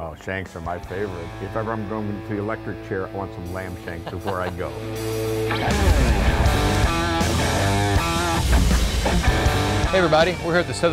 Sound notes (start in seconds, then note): 3.6 laughs; 3.7 heavy rock music